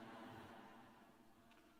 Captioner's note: laughter